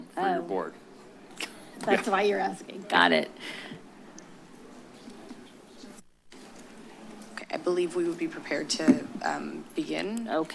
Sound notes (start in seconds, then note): 5.5 pause